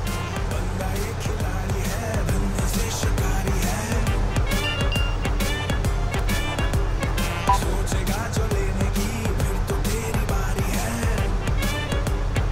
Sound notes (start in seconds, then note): 4.5 message tone; 7.4 beep on mobile